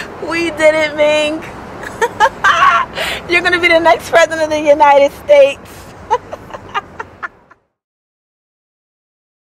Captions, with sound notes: We did it Ming. (laughs) You are gonna be the next President of the United States. (laughs)